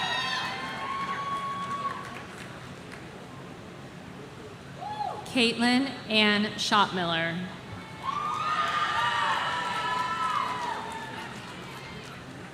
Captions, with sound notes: Kaitlin Ann Shotmiller. (audience cheering)